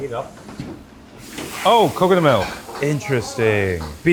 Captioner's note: milk sizzles